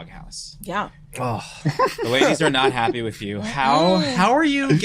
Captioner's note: laughs loudly